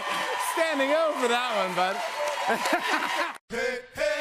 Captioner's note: cheers and applause